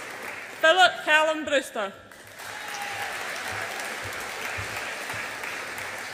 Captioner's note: audience applauds and cheers